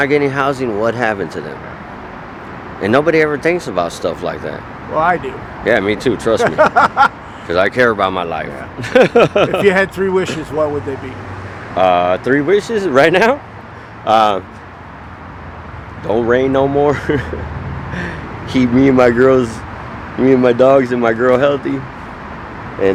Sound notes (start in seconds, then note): 6.3 laughing; 16.8 laughing